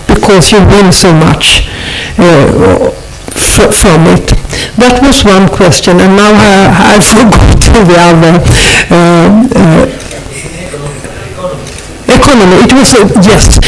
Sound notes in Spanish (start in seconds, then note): 9.7 voz fuera de micrófono